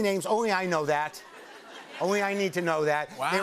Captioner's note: laughter